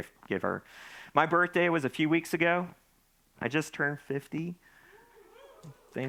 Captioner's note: audience cheering